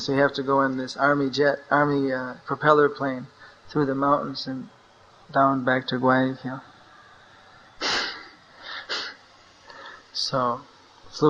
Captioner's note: laughs